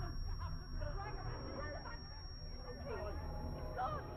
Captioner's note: distorted shouting